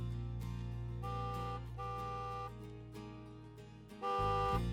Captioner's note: car honking